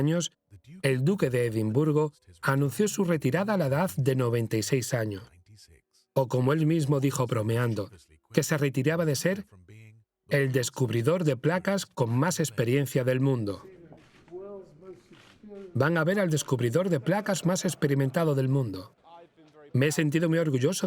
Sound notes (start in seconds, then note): 17.3 audience laughing